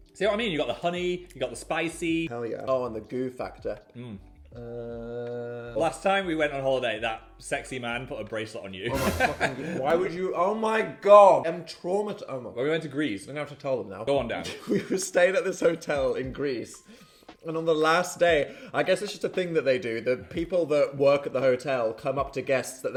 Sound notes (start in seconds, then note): 8.9 laughing; 14.4 chuckles